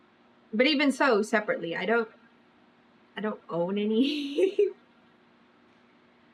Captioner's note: laughs